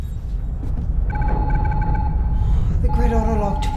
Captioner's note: консольные гудки